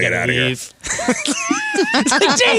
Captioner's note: laughing